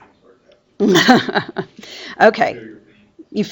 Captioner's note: chuckles